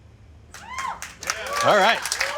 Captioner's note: crowd cheering